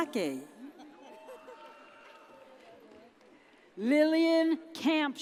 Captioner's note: audience cheers